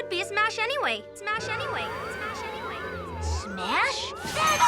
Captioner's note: Lizbeth echoing